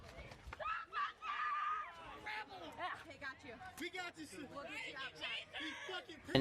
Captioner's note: screaming